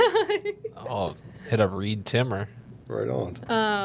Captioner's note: laughing